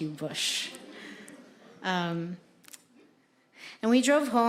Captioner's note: audience laughing